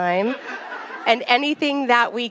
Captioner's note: attendees laugh